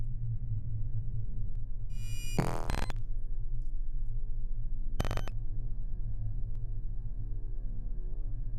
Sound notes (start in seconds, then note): 1.4 high-pitched zipping